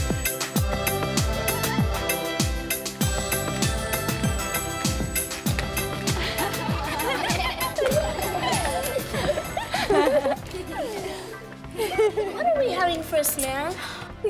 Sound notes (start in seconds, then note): 0.1 cheerful music; 6.1 everyone laughs